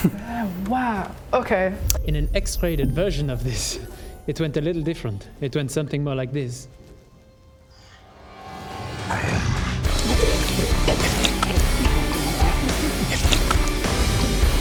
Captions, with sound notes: Wow. Okay. In an X-rated version of this, it went a little different. It went something more like this. *traumatic baby eating noises*